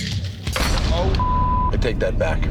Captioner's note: beep